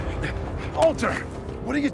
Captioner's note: Walter panting